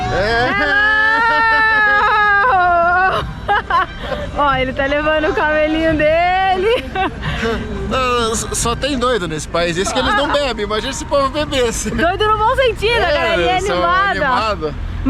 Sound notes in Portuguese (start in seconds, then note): 3.3 risos